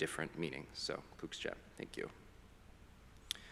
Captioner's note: foreign language